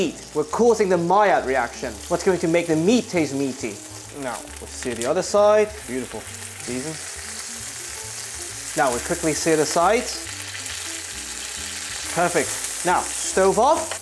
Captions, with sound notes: We're causing the Maillard reaction. What's going to make the meat taste meaty? Now, we'll sear the other side. Beautiful. Season. Now, we quickly sear the sides. [sizzling sound] Perfect. Now, stove off.